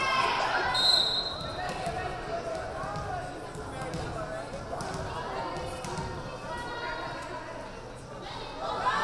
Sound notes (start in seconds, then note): 0.7 whistle blaring